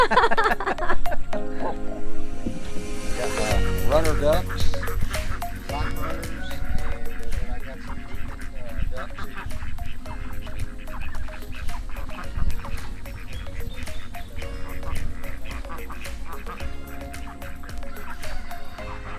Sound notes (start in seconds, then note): 0.0 laughs; 2.9 upbeat music; 11.8 ducks quacking; 13.4 upbeat music